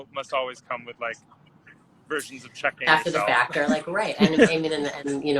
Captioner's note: laughs